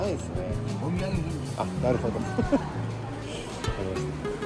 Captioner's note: laughs